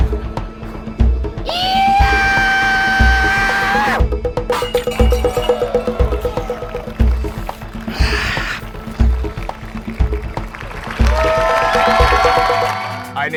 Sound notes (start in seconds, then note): 1.4 yelling; 11.0 audience cheering and applauding